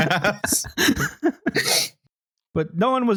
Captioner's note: laughter